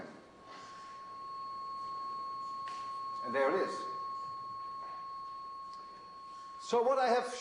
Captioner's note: tone volume increases